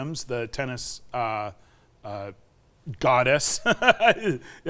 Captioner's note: laughs